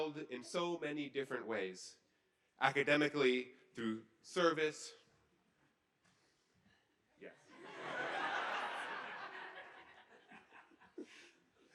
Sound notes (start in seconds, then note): 7.7 laughing